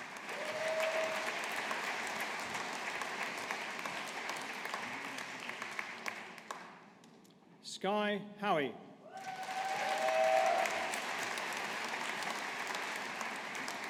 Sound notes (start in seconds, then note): 0.0 audience applauding; 9.1 audience applauding